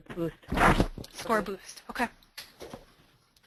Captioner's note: voiceover